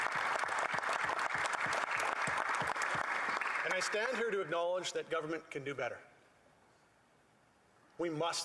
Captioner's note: applause